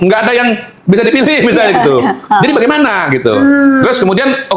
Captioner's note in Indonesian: tertawa